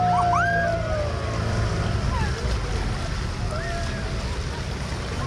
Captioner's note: laughing and cheering from crowd